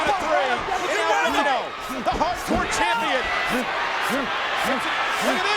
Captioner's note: overlapping chatter